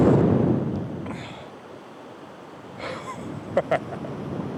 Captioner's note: panting; chuckling